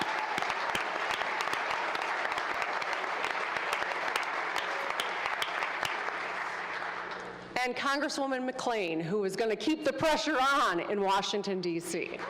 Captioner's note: applause